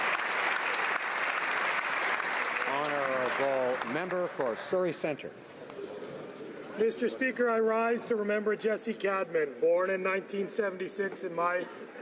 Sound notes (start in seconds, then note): 0.0 applause